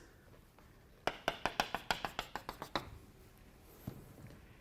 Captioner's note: chalk tapping